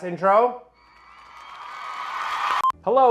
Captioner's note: sfx: Crowd Cheering, getting louder